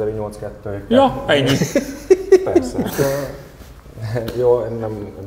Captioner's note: laughing